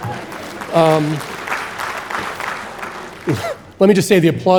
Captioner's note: audience applauding